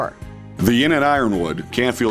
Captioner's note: voiceover